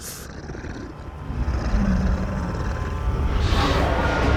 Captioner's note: snarls